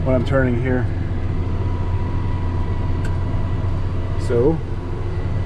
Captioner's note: Discbine whirring